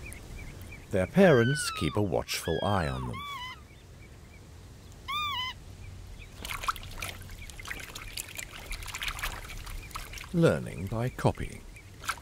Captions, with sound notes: Their parents keep a watchful eye on them. [bird chirps] Learning by copying.